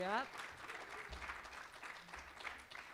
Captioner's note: applause continues